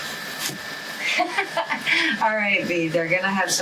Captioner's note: laughs